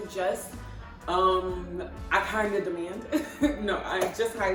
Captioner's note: laughs